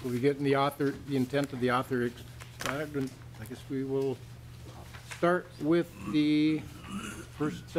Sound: chorus of ayes

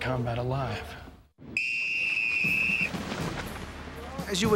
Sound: whistle

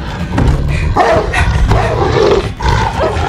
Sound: barking

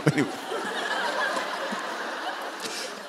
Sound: laughter

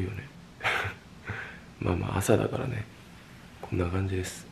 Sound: haha

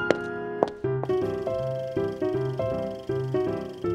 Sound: film reel rolling

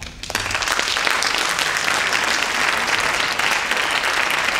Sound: audience applauding

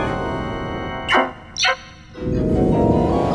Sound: scary music; scary blinking sound; scary music

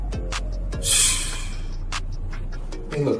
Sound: exhale

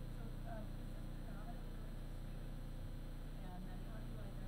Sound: woman speaking softly

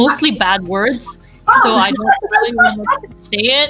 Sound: laughs

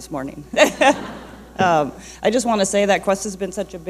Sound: laughing

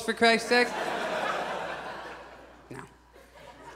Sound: audience laughs

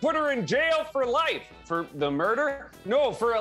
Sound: normal voice

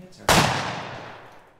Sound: gunshot

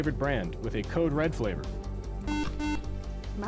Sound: buzzer

